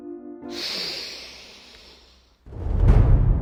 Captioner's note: sniff